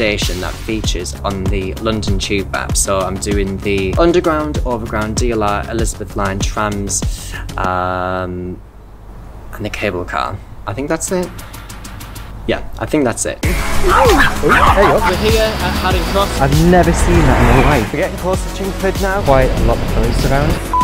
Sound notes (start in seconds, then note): 13.6 dogs barking